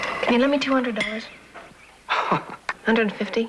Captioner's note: laughs